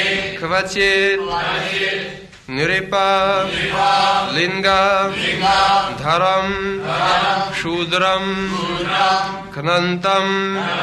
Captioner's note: devotees repeat